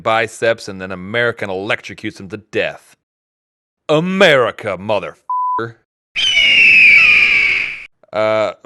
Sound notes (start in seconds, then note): 6.1 valiant Eagle shriek